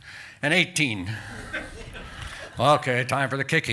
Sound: chuckle

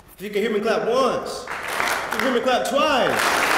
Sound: applause

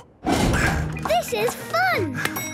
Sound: panting

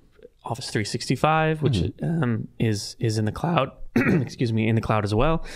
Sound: clearing throat

